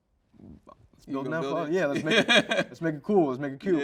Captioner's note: host chuckles